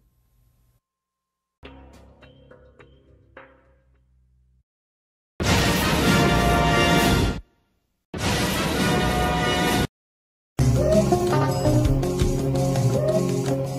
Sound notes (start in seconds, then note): 0.1 silence; 1.6 music plays quietly; 5.4 electricity zapping as rousing fanfare plays